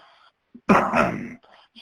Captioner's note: clears throat